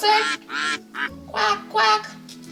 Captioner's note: duck quacking